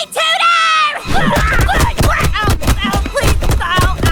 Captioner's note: Rudy yelling